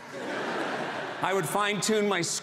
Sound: audience laughs

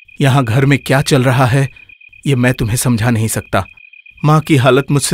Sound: none

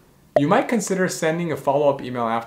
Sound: bubble popping

